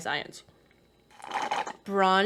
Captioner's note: loud slurp